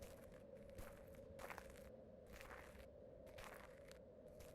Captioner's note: footsteps pattering